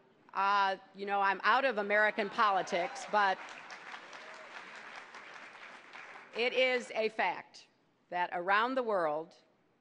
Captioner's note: laughter; applause